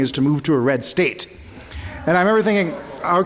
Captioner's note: laughter